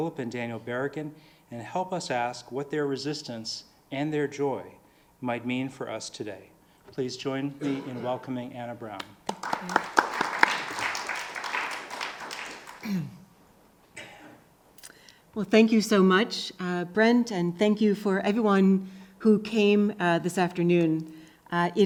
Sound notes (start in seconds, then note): 8.9 audience clapping